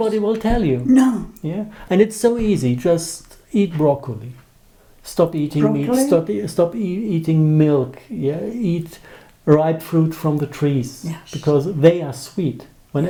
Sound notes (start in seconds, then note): 5.6 drinking